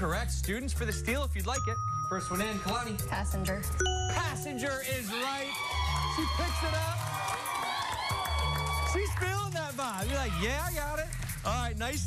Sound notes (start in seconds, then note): 4.8 cheers and applause